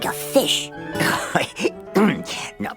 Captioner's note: chuckling